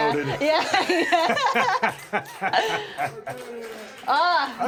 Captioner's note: both laughing